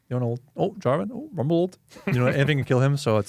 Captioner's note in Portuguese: risos